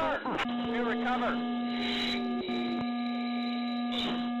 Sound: aircraft beeping

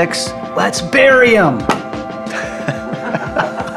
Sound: laughs

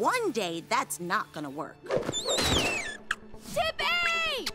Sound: squeaking

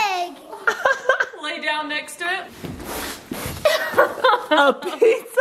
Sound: laughing; laughing

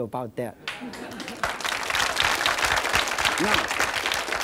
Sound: applause

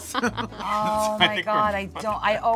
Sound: laughing

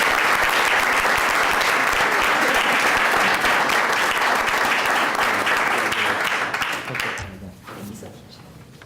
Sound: applause

